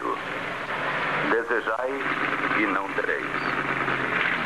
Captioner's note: engine Revving